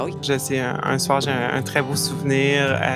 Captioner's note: none